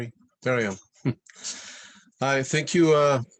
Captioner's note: chuckles